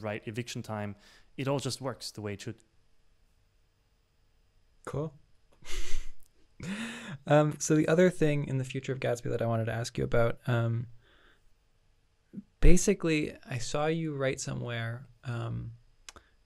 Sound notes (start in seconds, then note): 5.6 chuckling